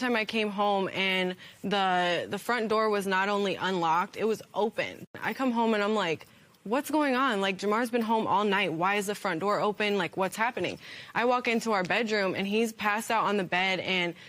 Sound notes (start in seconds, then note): none